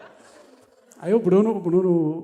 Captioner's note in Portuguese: risos